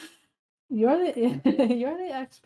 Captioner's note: laughs